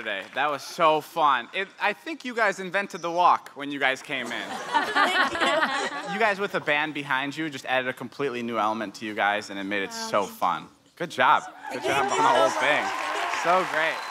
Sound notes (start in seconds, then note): 4.1 laughing